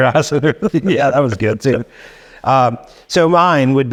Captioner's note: laughing